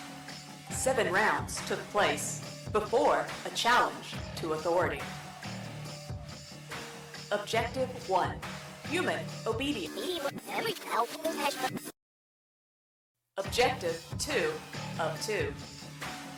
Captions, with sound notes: seven rounds took place before a challenge to authority. Objective one human obed -[Electronic scramble] Objective two of two